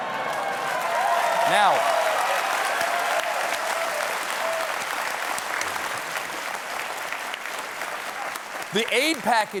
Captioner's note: cheers and applause